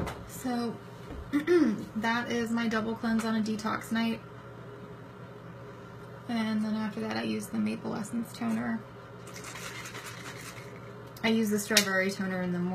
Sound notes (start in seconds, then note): 9.2 shaking bottle